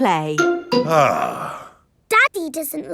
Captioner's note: sighs